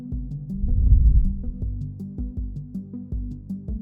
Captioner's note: air vibrating